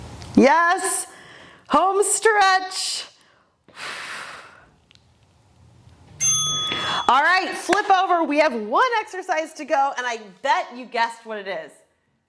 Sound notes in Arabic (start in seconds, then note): 6.6 زفير